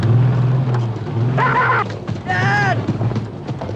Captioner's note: baboon shouts